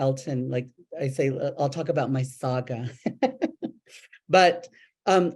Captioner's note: laughs